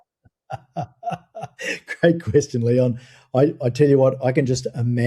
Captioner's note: laughing